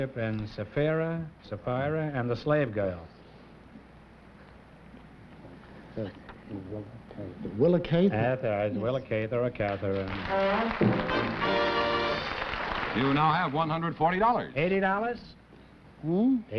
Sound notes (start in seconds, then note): 4.6 whispering; 9.6 applause